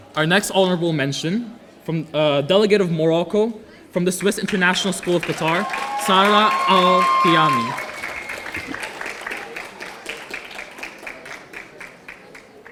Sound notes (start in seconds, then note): 7.1 audience cheering; 8.3 audience applauding